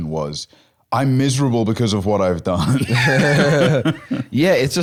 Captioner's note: both laughing